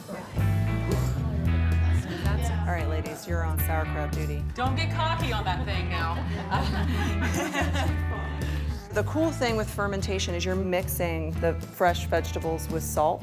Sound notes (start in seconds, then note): 0.1 upbeat music; 7.0 group laughing